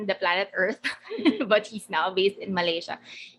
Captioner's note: laughing